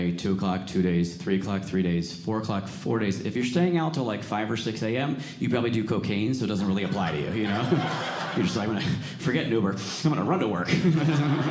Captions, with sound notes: 2:00 o'clock, two days, 3:00 three days, 4:00 o'clock, four days. If you're staying out till like, 5:00 or 6:00 AM, you probably do cocaine. So it doesn't really apply to you. (audience laughing) You're just like, forget Uber. I'm going to run to work.